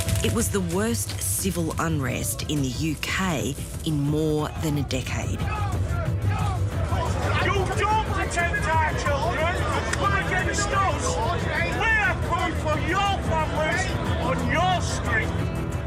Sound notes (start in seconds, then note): 5.4 protesters yelling